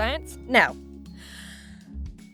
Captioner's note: inhale